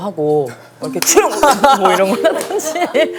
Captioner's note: cough cough